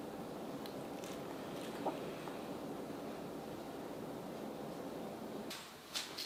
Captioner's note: sounds of falling asleep